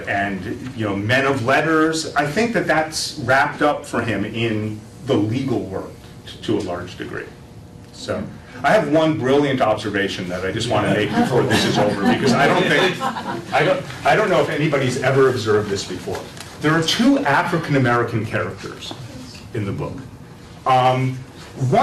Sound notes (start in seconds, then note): 12.6 laughter